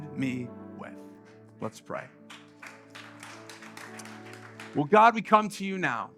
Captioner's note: congregation Applauding